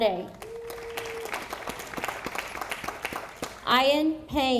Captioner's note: audience applauding